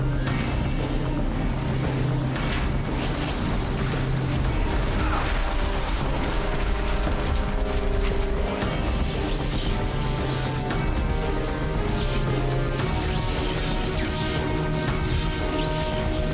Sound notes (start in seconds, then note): 1.7 wind blowing; 8.5 zapping